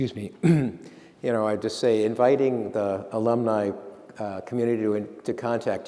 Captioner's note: clears throat